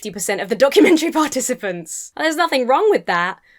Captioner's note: laughs